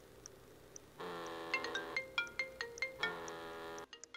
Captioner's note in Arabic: رنين الهاتف